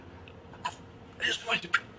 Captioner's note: gasping